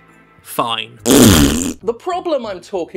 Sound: blows raspberry

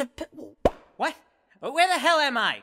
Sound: popping sound

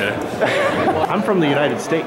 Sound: laughing

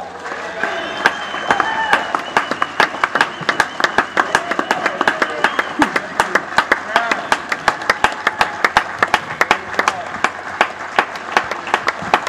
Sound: cheering

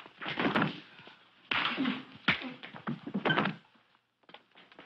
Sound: thudding

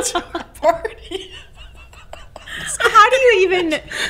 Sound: laughing

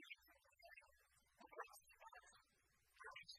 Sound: speaking in foreign language

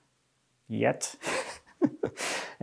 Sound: laughs

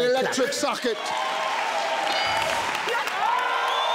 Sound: crowd cheering

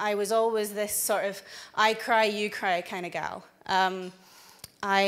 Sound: none

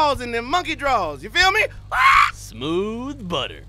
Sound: cawing

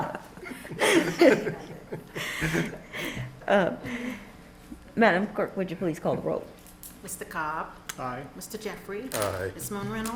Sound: laughter

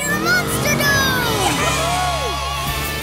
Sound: cheering

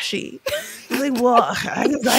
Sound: chuckling

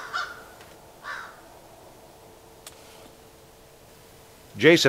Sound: crows calling

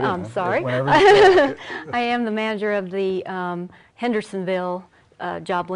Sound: laughing

